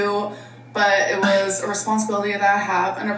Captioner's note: chuckling